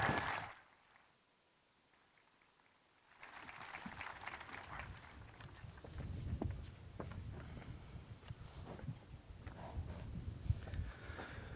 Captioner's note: applause